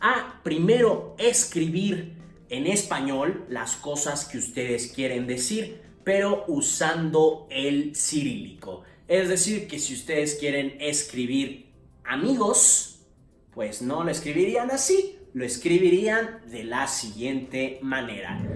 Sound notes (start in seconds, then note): 12.5 Spanish; 15.5 Latin